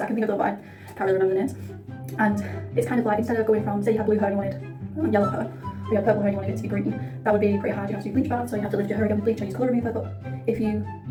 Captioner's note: sped-up talking about colour theory lol